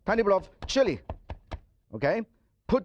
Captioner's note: knife chopping